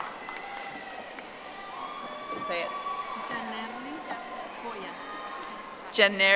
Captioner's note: audience applauding